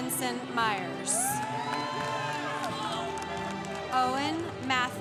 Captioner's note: congregation cheering